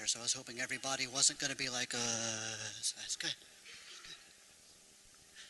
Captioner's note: zombie sound